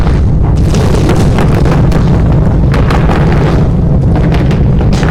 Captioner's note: explosion